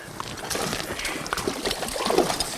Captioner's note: splashing